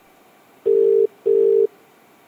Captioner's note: Cell phone ringing